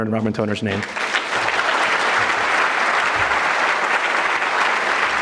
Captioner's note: audience clapping